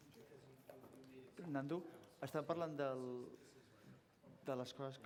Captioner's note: non-english speech